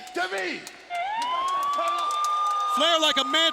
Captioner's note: siren wailing